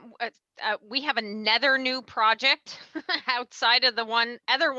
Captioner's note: laughs